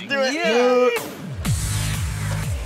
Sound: cheering; electronic music

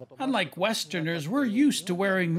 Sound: speaking Foreign Language

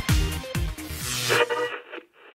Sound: sound Effects

